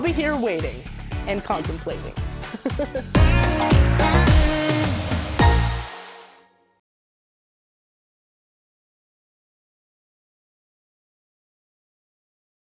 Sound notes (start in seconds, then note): 2.4 laughs